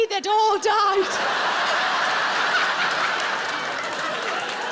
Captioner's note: audience laughs